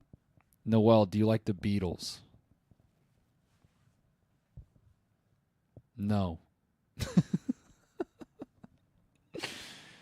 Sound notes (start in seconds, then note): 7.0 laughs